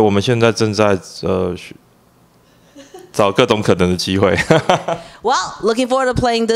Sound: laugh

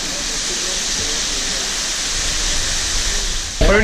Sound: waterfall sound

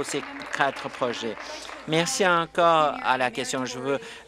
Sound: applause

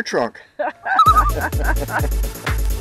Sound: laughing; loon call

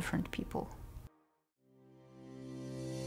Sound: silence

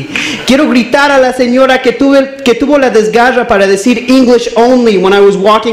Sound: speaks in Spanish

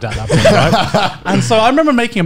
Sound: men laughing

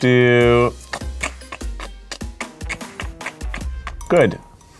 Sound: clicking tongue

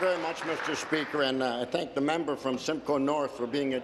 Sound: applause

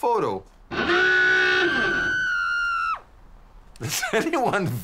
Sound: crowd screaming

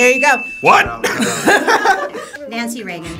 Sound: all laugh

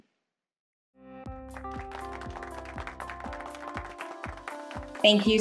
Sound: upbeat music; hands clapping

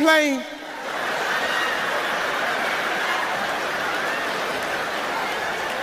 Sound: audience laughing

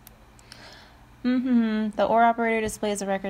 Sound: hums

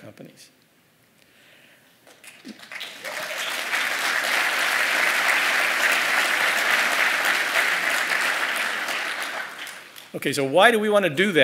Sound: applause

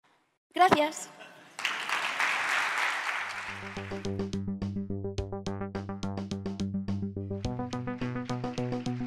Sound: clapping

